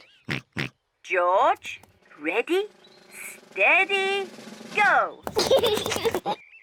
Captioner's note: snorts; laughs